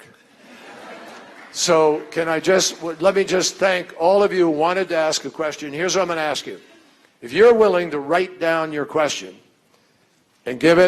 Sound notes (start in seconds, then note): 0.4 laughter